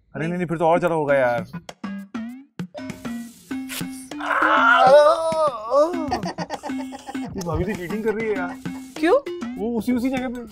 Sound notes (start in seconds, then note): 4.2 screaming